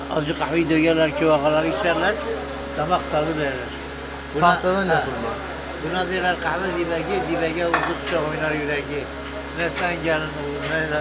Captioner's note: speaking Turkish